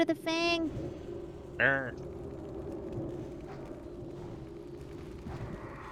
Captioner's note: growl